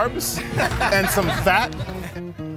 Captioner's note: people laughing